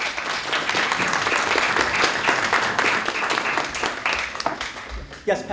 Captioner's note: applause